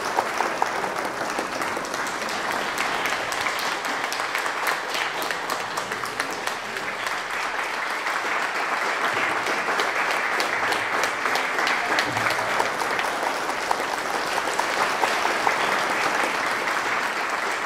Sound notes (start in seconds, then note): 15.1 applause; 15.6 applause building